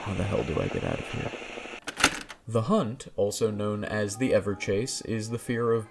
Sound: tape recorder clicks off

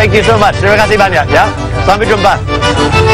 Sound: speaking indonesian

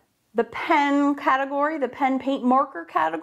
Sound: none

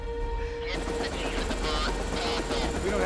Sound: radio chattering

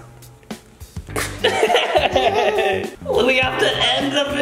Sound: laughing

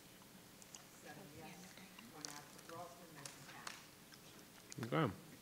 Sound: members chattering

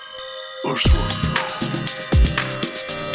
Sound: voiceover; upbeat music

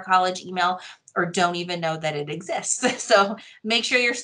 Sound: laughs

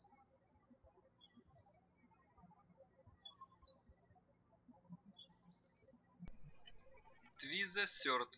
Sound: birds chirping

